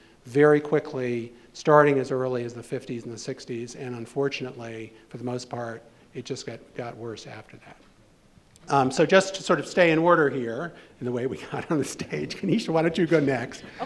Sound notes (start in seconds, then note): 12.1 laughing